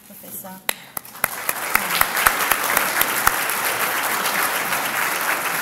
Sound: audience applauds

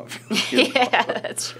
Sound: laughter

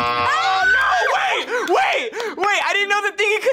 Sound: buzzer rings; screams

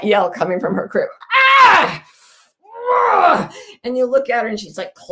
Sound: screams

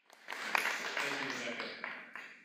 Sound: applause

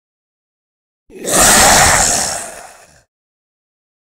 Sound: sound of zombie

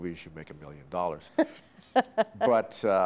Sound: laughing

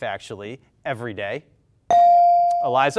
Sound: bell rings

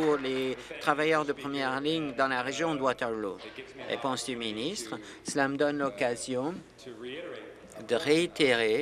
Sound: applause

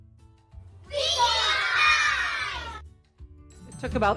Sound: kids all yelling together

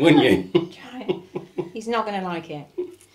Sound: laughs

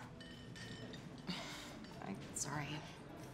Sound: sighs

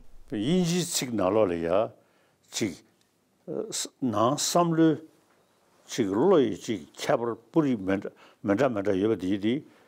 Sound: speaking in Tibetan

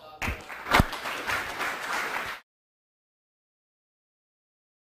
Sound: audience claps

